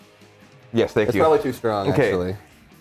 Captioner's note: laugh